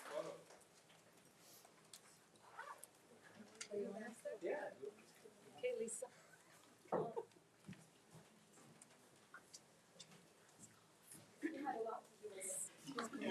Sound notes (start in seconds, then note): 1.6 speaking faintly; 4.5 speaks faintly; 6.9 laughs; 10.3 speaks faintly